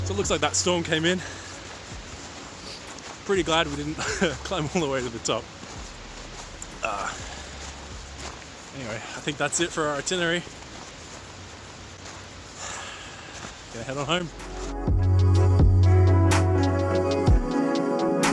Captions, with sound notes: So it looks like that storm came in. I'm pretty glad we didn't climb all the way to the top. Anyway, I think that's it for our itinerary. (sighs) Gonna head on home. (bass thumping beat)